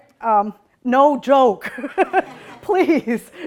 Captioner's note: laughs